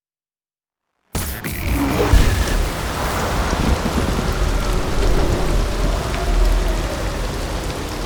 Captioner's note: silence; sound returns undistorted, rain and wind